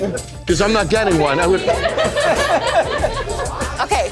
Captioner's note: laughter